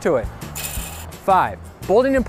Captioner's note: fence rattling